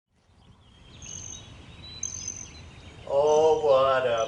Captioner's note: birds chirping